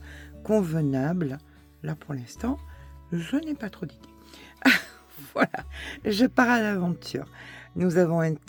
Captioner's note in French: rires